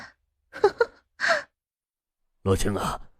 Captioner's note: laughs mockingly